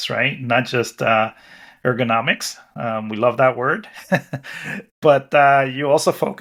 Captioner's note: chuckles